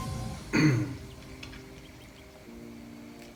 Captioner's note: clearing throat